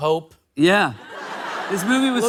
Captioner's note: laughter